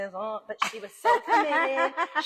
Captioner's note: laughs